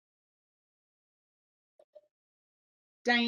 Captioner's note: silence